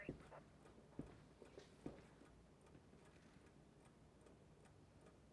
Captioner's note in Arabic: ثرثرة على جهاز لاسلكي الشرطة; دقات الساعة